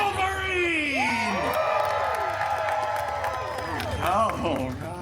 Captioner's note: guests cheering and applauding